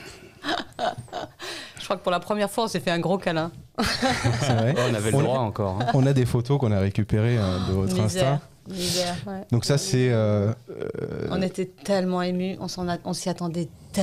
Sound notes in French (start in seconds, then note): 3.8 Rires